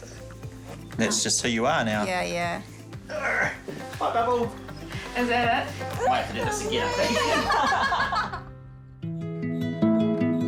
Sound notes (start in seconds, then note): 3.0 grunts; 5.7 murmurs; 9.4 laughter; 10.2 gentle guitar music